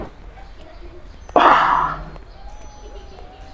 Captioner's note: Moaning